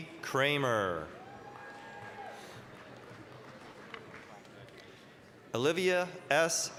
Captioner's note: applause, cheering